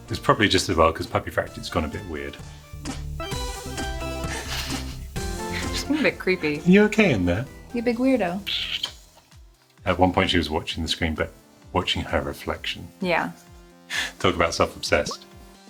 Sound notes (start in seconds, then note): 3.2 playful electronic music; 8.4 kissing